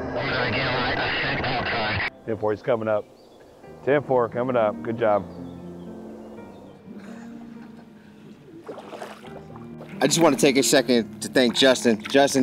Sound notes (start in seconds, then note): 8.4 water bubbling